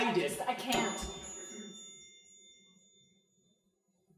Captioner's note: bell dings